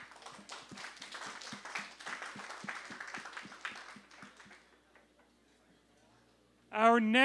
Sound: applause

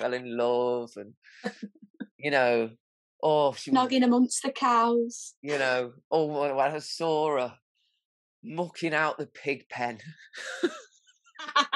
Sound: laughs

